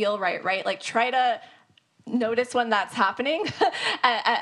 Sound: laughs

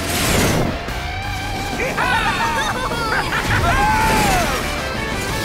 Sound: laughing

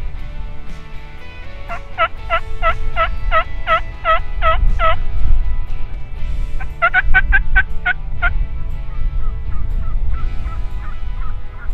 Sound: turkey call noise

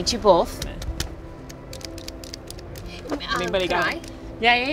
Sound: clicking

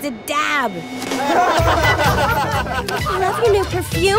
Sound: laughing

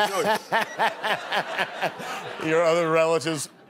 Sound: laughter

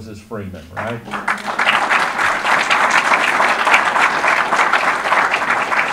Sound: audience applause

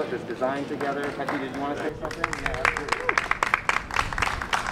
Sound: applause

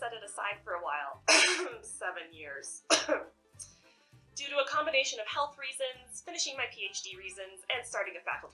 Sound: ahem

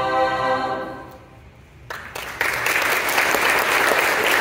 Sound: applause

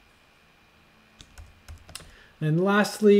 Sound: keyboard tapping

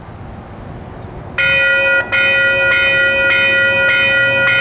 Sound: crossing Bells

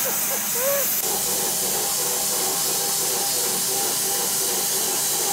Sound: saw buzzes

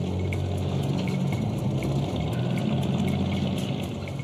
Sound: suspenseful music; boat rumbling

